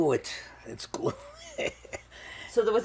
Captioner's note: laughing